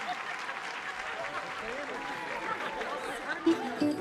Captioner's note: people chattering